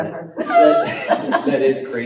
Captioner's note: laughter